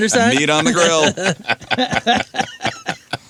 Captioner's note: laughing